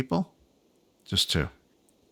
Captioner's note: silence